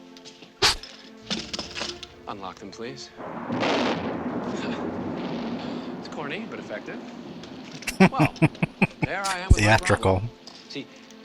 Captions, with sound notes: [Laughing] Theatrical.